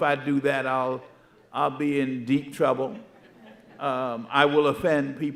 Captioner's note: audience chuckling